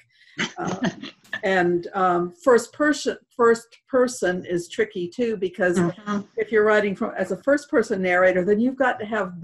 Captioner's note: laughter